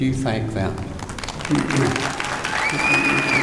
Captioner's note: applause